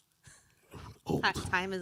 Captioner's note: chuckling